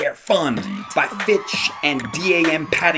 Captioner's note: comic cheering